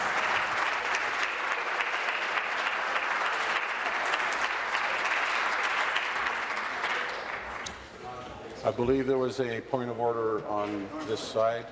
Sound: applause

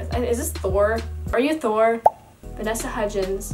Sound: pops

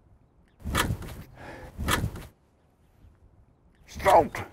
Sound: motor stalling

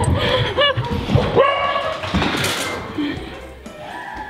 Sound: dog barks

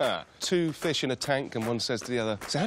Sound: laughs

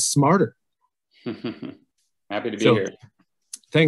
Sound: chuckles

